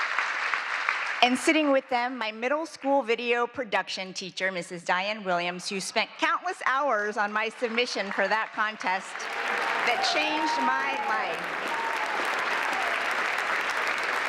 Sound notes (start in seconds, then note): 4.8 applause